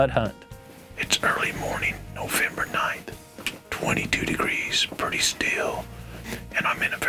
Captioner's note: whispering